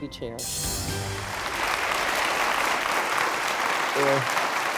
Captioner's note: audience applauding